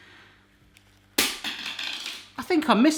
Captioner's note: plastic clattering